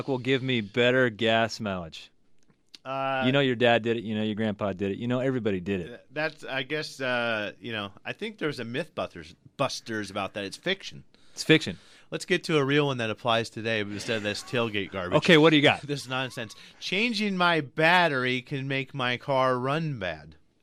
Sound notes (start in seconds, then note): 13.8 laughs